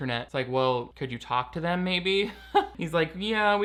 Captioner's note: laughing